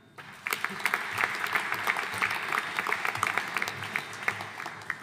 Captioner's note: audience applauding